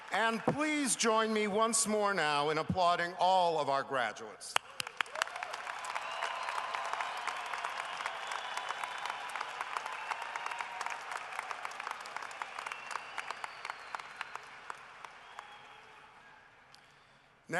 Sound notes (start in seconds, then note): 4.6 cheering and applause